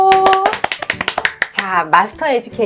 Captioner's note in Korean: 짝짝짝짝짝짝!